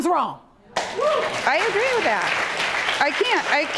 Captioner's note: audience cheers